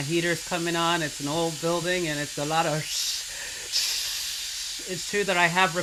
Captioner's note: hissing